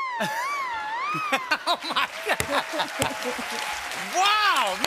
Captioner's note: cheers and applause; laughter